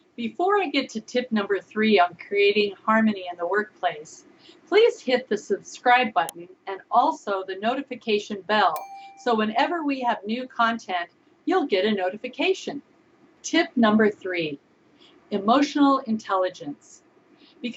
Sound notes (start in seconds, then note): 8.7 bell ringing